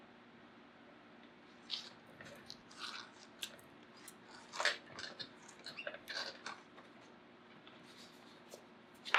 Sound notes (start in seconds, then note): 3.3 smacks lips